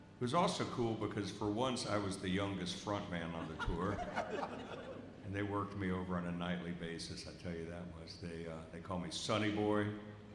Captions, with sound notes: It was also cool because for once, I was the youngest front man on the tour. [audience laughs] And they worked me over on a nightly basis. I tell you that was, they called me Sonny Boy.